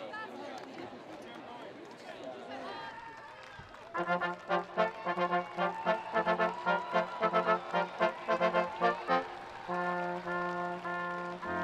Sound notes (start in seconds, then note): 3.9 upbeat collegiate music; 3.9 students applauding; 5.6 students cheering